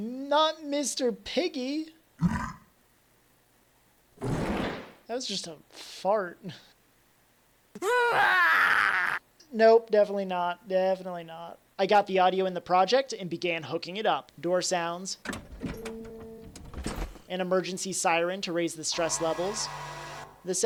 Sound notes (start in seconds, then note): 2.2 Pig Oink; 4.2 fart sound; 7.8 crazied Screaming